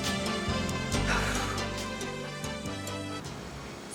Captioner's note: Donna sighing